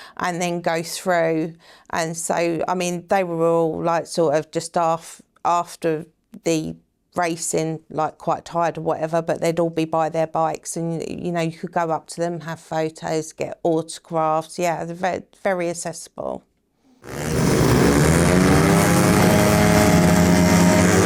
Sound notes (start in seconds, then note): 17.0 bikes revving